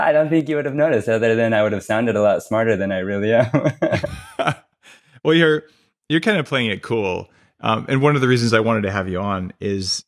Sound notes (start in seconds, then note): 3.4 laughs